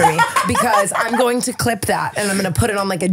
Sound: laughing

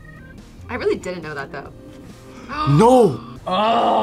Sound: gasps

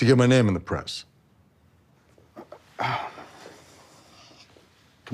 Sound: sighs

